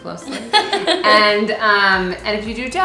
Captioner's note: laughs